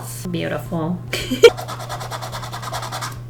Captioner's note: laughs